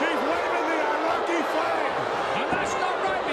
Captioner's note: crowd boos